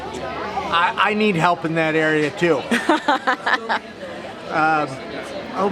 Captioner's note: laughs